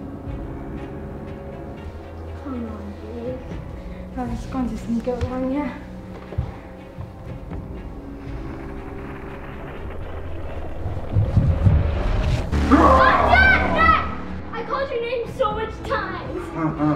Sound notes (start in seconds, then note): 8.2 intense music; 9.8 music intensifies; 12.6 screams; 16.4 laughs